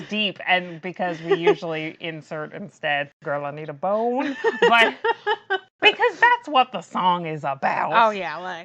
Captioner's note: laughs